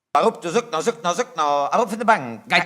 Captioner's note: speaking yiddish